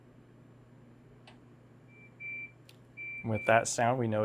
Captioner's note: beeping